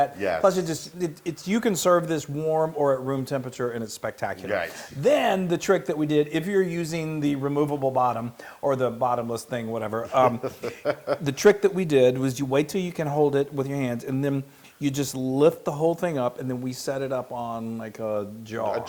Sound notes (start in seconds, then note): 10.0 laugh